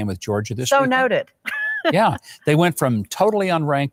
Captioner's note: laughs